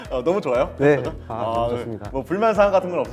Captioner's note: haha